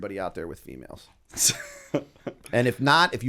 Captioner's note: chuckle